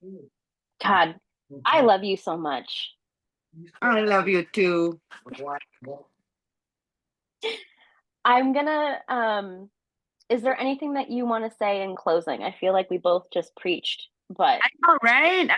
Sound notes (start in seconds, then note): 7.3 laughing